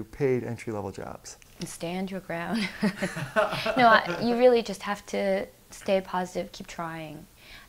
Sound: laughs

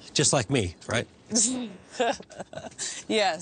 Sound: laughing

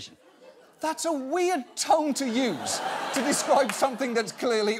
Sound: audience laughing

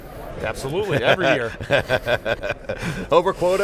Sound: laughs

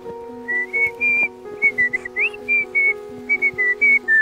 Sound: whistling

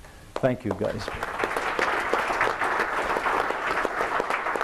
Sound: applause

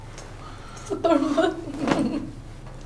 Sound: laughing

